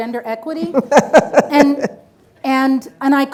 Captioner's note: participant laughs